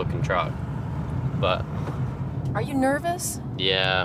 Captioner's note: none